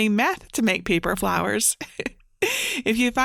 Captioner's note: chuckling